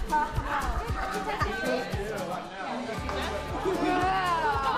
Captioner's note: AIM clients laughing